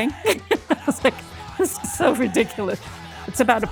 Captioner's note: chuckles